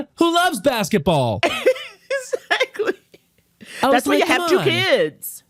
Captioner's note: laughs